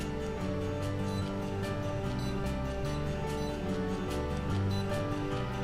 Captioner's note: beeping